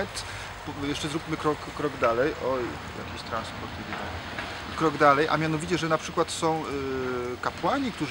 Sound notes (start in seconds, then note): 3.6 some car is approaching